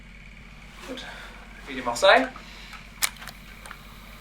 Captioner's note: dictaphone Starts